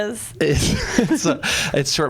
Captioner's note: laughs